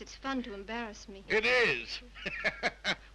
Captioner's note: laughs